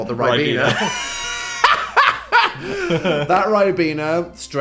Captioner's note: cackles